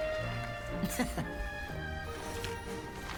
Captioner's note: laughs